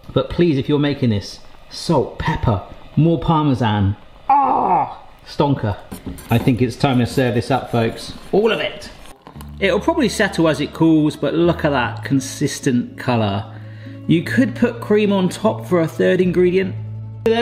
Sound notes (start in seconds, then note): 4.2 groans